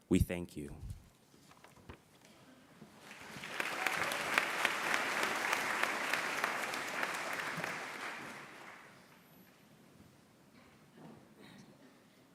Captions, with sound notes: We thank you. [APPLAUSE]